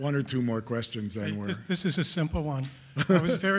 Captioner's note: voiceover; laughing